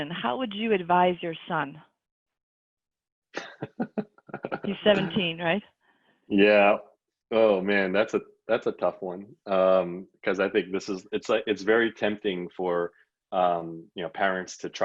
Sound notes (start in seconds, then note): 3.4 laughs